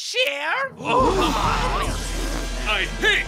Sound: horrified gasping

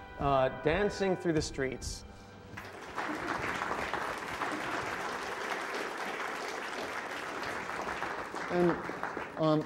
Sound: applause

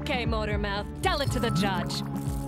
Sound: handcuffs clanking

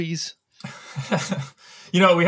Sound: laughs

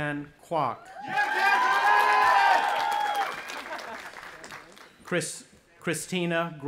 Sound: cheering

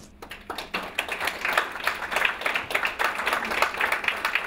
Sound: audience applauds

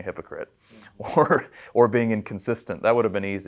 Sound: chuckling

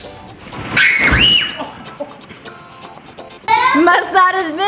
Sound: girls scream

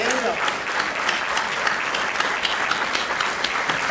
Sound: crowd clapping

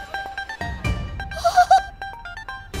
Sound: laughs

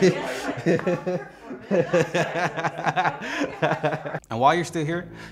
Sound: laughs

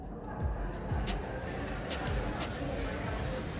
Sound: hum of conversations

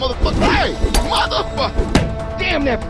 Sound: hits on the wall

